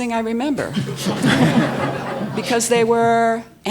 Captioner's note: all laughing